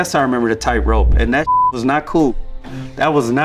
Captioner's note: beep